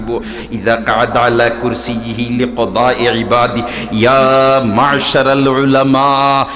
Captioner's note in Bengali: আরবি